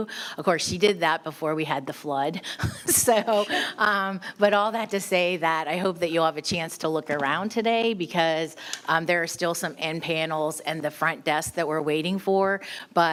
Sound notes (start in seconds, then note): 2.7 laughing